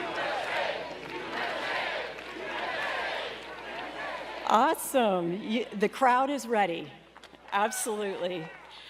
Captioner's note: cheers and applause